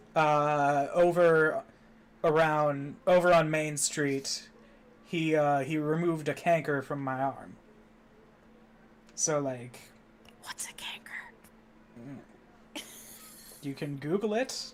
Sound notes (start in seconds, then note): 10.7 stage whispering; 12.8 wheezing